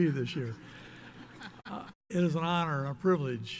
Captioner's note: audience laughs